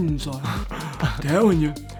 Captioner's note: laughing